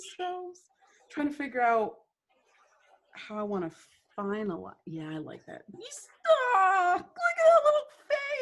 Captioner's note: squealing "aw" noise